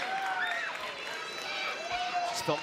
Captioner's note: cheers & applause